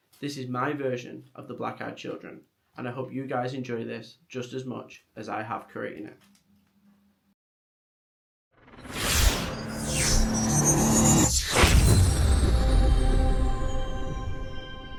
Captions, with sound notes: This is my version of the Black Eyed Children, and I hope you guys enjoy this just as much as I have creating it. [electric swirling sound]